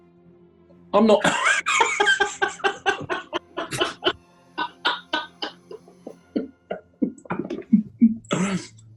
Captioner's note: laughter